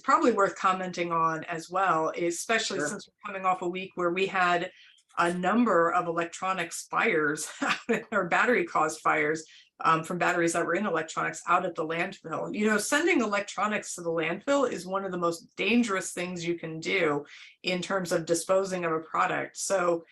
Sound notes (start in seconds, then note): 7.3 laughter